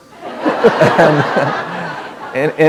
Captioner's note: laughter